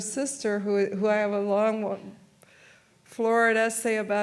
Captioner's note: speaks in foreign language